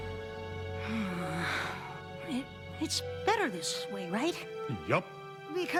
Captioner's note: sighs